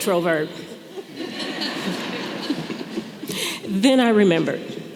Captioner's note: audience laughing